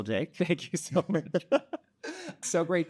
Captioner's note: laughter